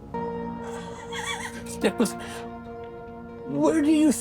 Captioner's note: Professor Fitzhubert laughs